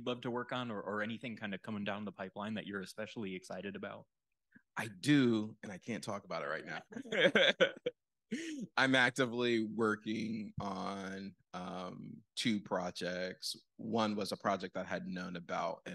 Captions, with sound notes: love to work on or anything kind of coming down the pipeline that you're especially excited about? I do, and I can't talk about it right now. [LAUGHS] I'm actively working on two projects. One was a project that I had known about